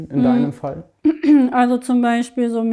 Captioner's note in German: Sie räuspert sich